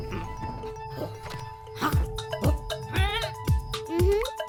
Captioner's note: excited bleating